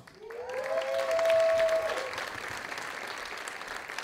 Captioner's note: audience applauding